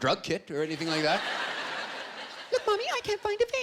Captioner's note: high voice; normal voice